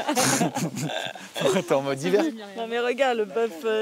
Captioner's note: laughs